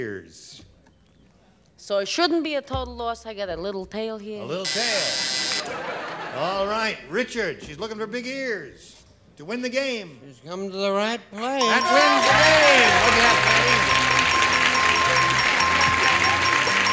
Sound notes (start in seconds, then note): 4.5 buzzer; 11.6 ding